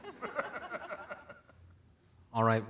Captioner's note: both laughing